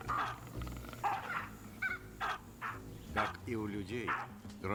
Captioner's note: barking continues